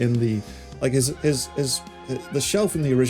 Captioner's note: stutters